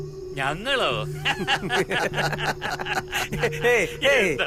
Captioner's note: Laughs